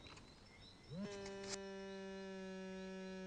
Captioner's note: phone vibrating